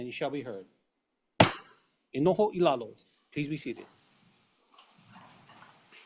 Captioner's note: gavel bangs once